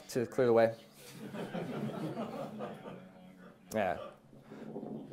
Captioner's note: class laughing